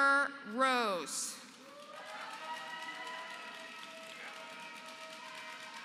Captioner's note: applause